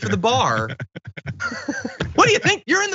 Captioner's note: laugh